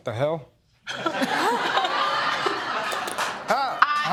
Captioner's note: laughter